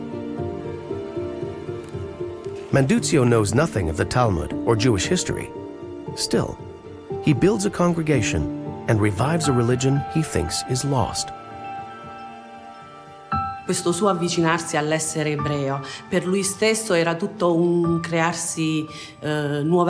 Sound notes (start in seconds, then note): 0.1 gentle music continues; 11.6 gentle music continues; 13.9 speaks in foreign language